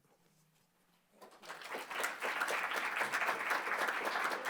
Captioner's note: applause